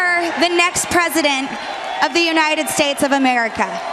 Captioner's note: cheering and applause